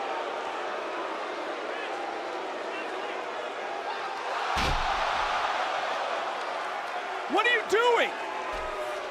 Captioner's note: crowd boos